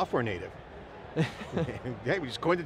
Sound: laughter

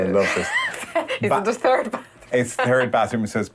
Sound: chuckles

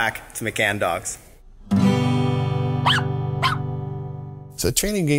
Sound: doggy barking; gentle music

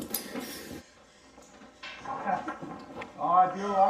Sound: door opening; breathing heavily; clattering sound

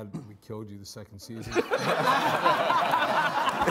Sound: all laughing

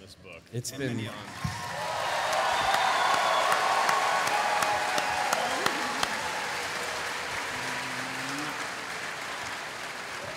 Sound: cheering

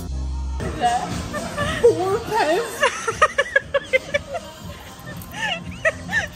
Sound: laughing

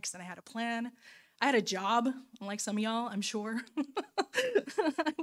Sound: laughing

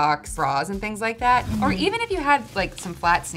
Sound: beep

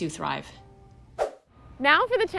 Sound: whoosh

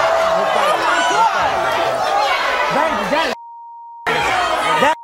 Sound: chattering

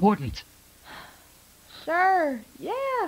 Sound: sigh

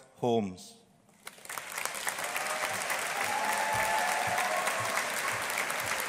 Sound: audience applauding

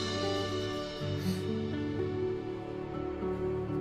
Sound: gasps

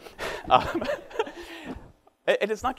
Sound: laughs

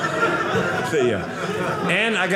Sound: audience laughing

